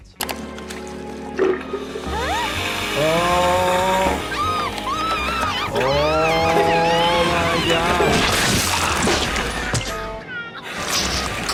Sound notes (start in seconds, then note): 0.2 dramatic music; 4.6 Petunia screaming